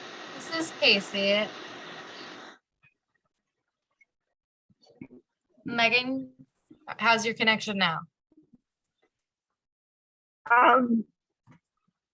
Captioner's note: audio cut out